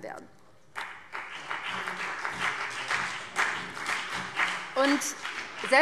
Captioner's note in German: Beifall BÜNDNIS 90/DIE GRÜNEN und vereinzelt CDU